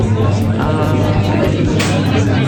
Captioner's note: laughing